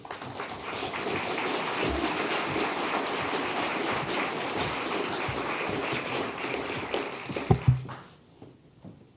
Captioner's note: applause